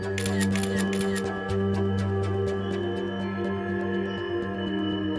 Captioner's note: camera shutter clicking; eerie music